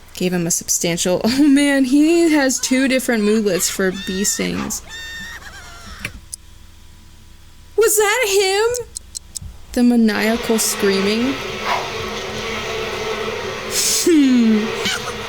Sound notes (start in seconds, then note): 2.3 sped-up, high-pitched cries; 6.0 stopwatch clicks; 11.4 swift woosh from sim changing clothes, bees buzzing; 13.7 amused exhale